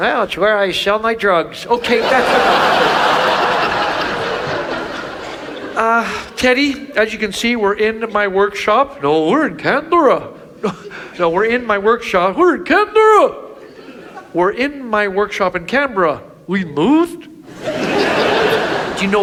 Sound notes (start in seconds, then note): 1.6 audience laughs; 17.4 audience laughs